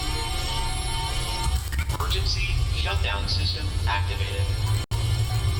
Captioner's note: power restoring; alarms & Bells in background